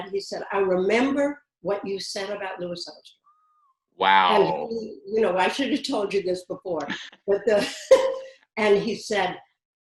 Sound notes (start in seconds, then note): 6.8 laughs